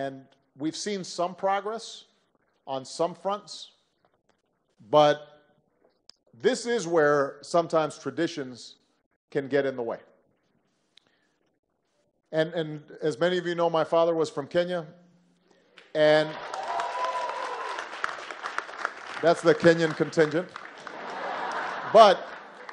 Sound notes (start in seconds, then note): 15.8 applause; 20.8 laughter